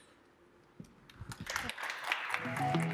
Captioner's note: applause